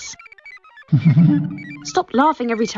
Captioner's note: laughs